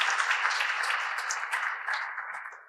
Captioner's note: audience applause